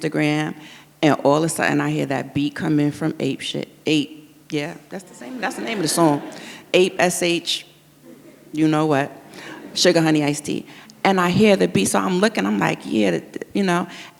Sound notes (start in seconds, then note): 4.9 audience laughs